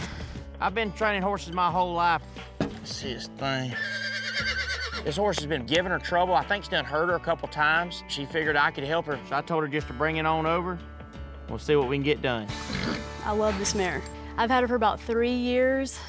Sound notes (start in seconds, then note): 3.7 horse neighing